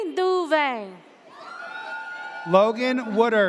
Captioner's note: audience cheers